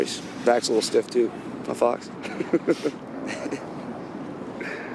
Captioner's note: chuckles